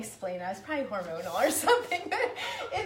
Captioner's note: laughing